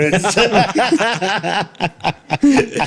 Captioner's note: laughing